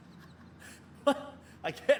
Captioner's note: laughing